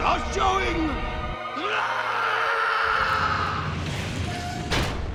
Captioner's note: screaming